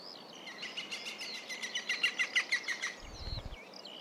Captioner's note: woodpecker calls